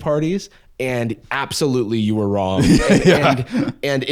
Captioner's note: laughing